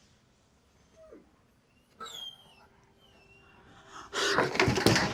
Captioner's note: dog whining